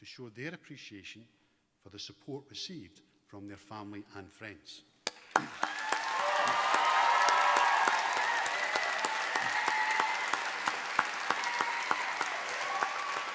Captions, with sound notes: appreciation for the support received from their family and friends. (APPLAUSE)